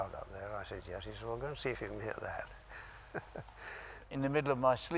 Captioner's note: laughs